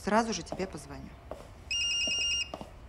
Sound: phone ringing

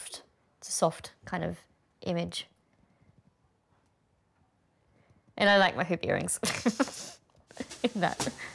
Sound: laughs

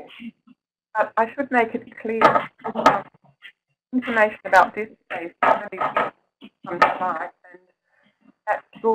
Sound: interference

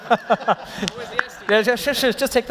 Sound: laughing

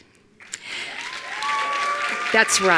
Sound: attendees applauding

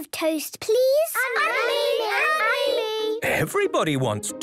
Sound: all calling out

